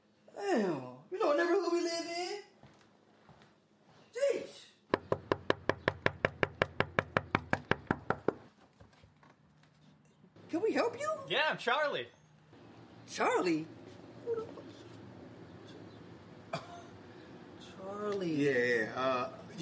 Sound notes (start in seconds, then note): 4.9 man knocks; 14.5 L whispers